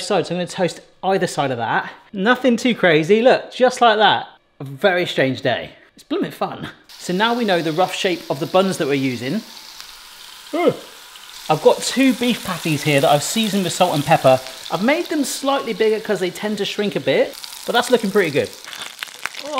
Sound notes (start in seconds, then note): 7.8 patty sizzling; 10.4 groans